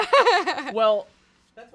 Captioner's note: laughs